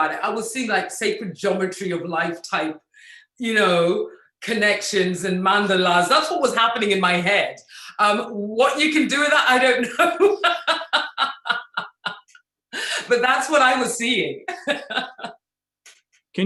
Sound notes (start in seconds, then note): 10.1 laughs; 14.5 laughs